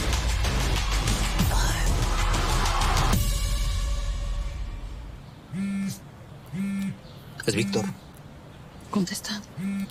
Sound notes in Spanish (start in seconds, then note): 6.5 Vibra el celular